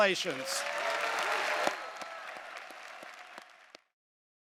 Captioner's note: audience applauding